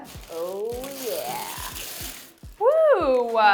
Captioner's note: paper rustling